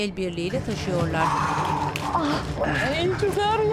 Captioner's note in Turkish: Nefes sesleri